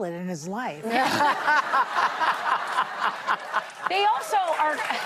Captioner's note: laughter; cheers and applause